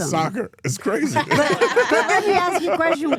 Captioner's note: all laughing